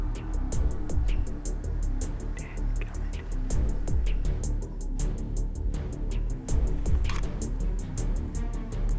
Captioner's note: whispering